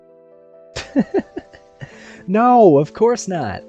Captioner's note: laughs